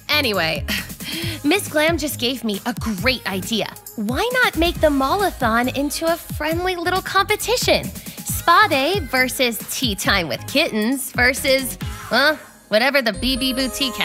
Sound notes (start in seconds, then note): none